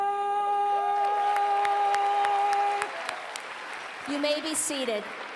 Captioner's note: applause